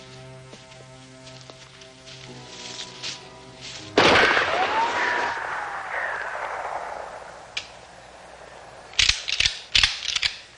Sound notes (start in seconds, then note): 1.2 gun shot